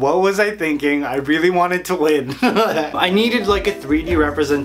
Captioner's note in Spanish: Risas